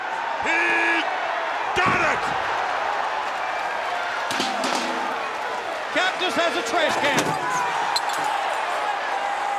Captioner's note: applause